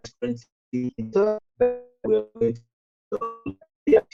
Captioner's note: audio distorted